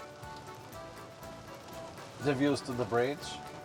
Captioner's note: raindrops patter on cover